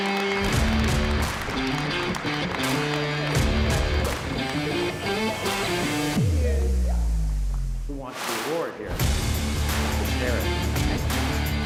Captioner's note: applause